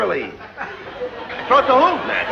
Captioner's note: laughter